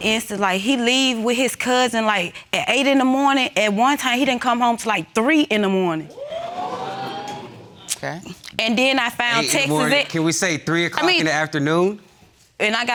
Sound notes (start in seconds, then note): 6.2 audience gasping